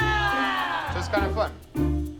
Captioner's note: all groan